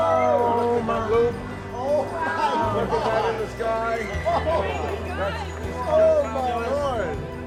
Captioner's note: excited chatter